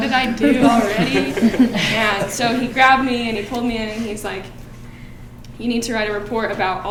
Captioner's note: laughing